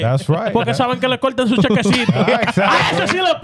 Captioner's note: speaking In Foreign Language